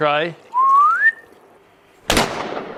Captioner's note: whistles; boom